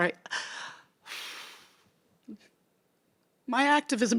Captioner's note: speaker sobbing